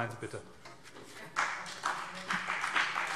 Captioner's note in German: Beifall CDU und BÜNDNIS 90/DIE GRÜNEN